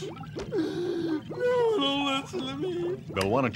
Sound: sobs

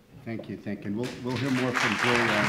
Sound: audience clapping

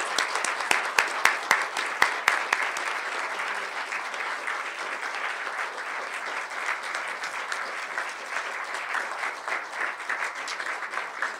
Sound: applause

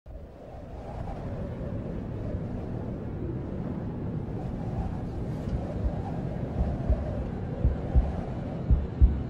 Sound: wind; heart beats + wind

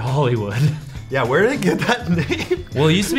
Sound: chuckles

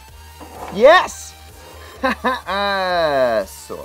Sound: laughs

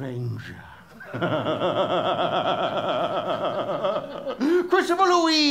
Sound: maniacal laugh

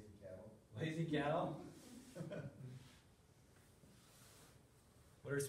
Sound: laughter

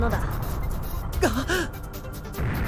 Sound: gasp

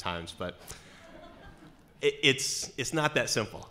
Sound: laughing

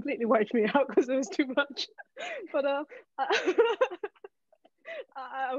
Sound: laughing

